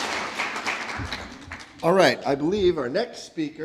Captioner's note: applause